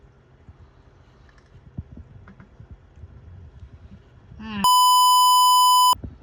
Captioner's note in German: Piep